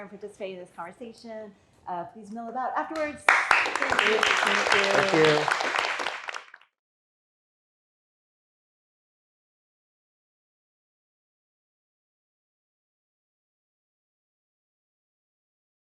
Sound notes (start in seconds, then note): 3.2 audience applauding